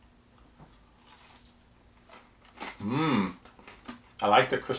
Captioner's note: food crackles